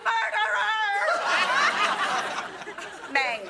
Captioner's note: audience laughing